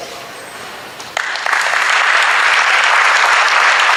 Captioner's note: audience applauds